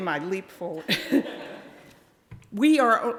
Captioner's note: audience laughing